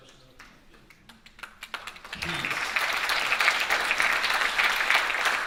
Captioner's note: audience applauding